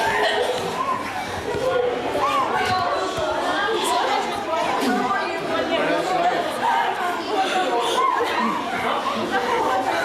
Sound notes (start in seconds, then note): 2.6 people talking